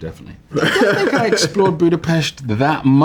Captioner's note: laughs